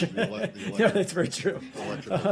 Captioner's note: laughter